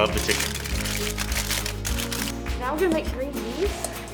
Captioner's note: tin foil crinkles